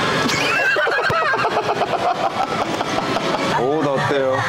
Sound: laughing

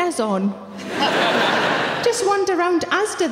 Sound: audience laughing

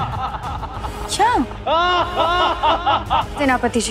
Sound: evil laughter

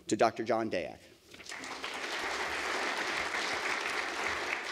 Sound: audience applauds

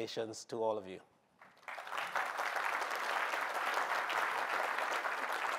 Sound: applause

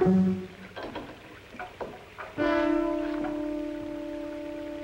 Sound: rain pattering

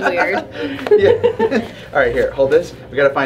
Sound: happy laughter

